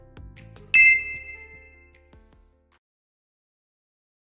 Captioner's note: bell ringing